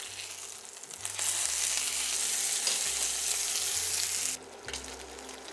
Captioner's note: sizzling sound